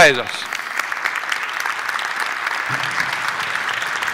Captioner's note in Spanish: aplauso